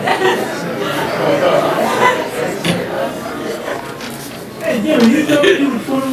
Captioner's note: audience chattering